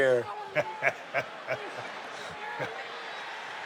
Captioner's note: Steve laughs